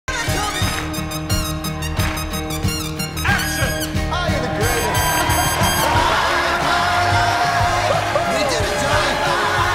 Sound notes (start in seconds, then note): 0.2 rhythmic clapping; 4.1 cheers and applause